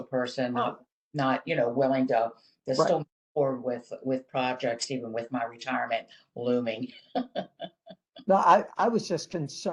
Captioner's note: laughter